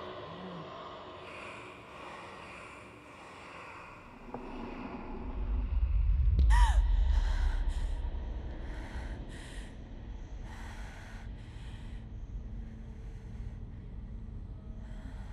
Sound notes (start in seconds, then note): 5.0 loud rumbling; 6.4 Zara gasping